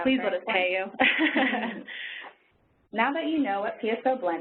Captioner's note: laughing